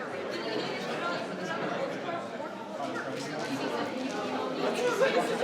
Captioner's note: group chattering